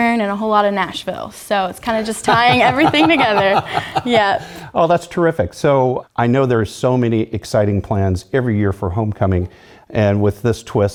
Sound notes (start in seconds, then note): 2.0 laugh